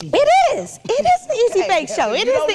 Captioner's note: chuckling